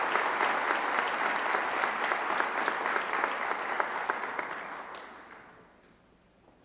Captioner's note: applause